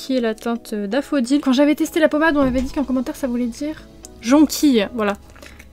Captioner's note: in french